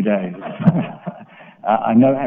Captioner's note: laughter